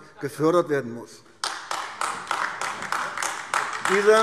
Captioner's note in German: Beifall AfD